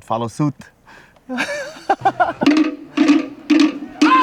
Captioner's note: laughs; drumming music